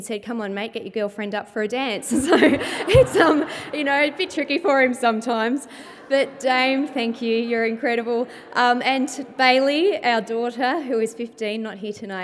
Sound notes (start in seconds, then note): 2.1 laughter